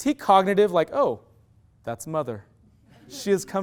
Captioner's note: loud laughter